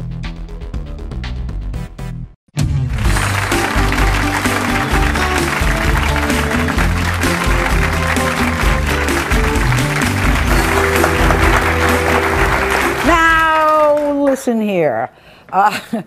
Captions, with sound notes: (upbeat music) (audience applauds) - Now. Listen here.